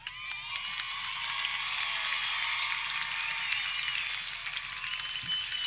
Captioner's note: audience cheering